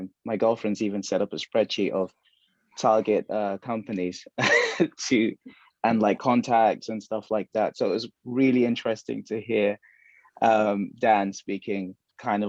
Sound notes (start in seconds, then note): 4.5 laughs